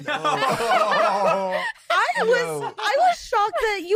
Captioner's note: laughter